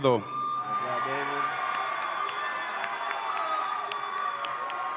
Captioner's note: audience applauds and cheers